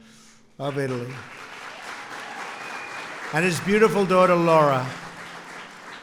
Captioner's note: applause